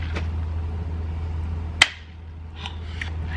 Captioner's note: straw going through plastic cover